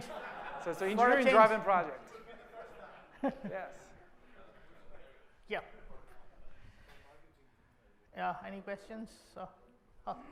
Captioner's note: laughter